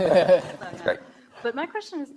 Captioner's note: laughing